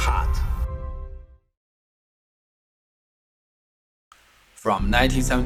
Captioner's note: silent